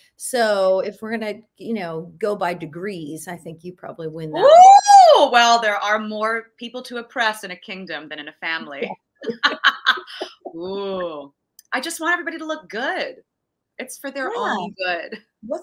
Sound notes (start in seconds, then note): 9.2 both giggling